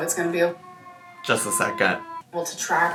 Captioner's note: siren blares